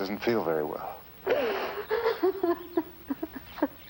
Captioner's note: crying